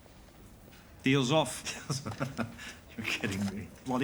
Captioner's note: laughing